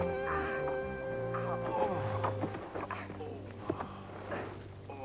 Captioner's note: groaning